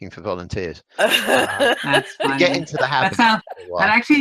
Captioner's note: laughs